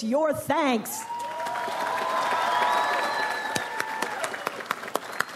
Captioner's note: audience applauds